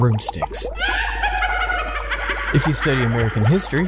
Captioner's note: cackles mischievously